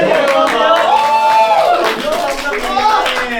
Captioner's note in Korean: 쏟아지는 기립박수